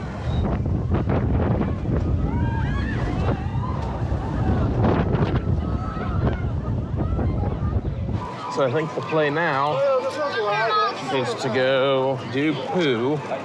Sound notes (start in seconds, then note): 2.3 riders shouting